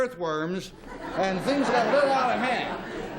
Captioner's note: laughter